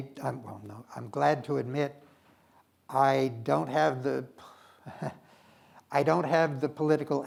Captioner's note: chuckles